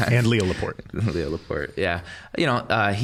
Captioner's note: chuckling